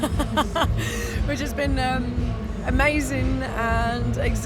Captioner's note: laughter